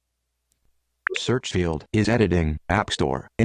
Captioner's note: beep